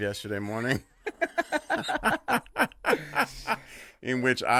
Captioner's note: laughing loudly